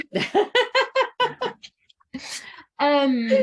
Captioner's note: both laughing